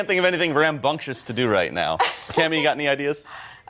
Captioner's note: laughter